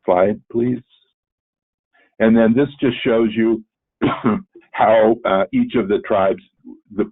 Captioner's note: cough